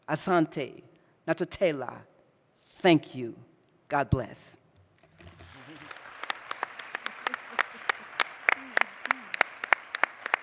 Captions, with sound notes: Thank you, God bless. (audience applauding)